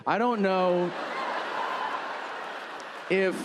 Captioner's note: audience laughing